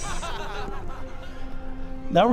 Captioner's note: audience laughs